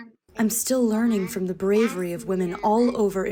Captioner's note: through translator